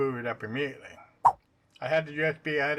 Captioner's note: swipe sound